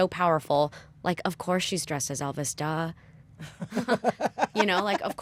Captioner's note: laughter